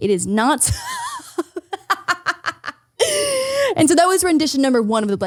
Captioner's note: laughing